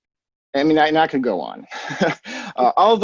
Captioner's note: chuckles